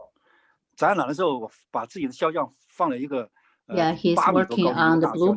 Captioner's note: speaking in foreign language